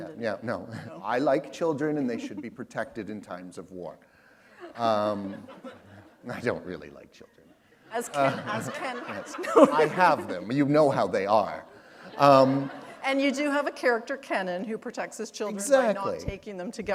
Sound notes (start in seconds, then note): 4.5 chuckle; 7.9 laughter